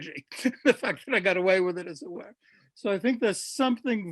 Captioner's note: laughs